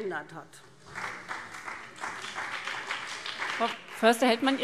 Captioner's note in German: Beifall